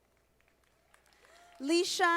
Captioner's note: audience applauding